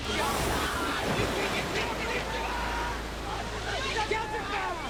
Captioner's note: bystanders clamor